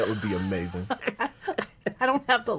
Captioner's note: laughing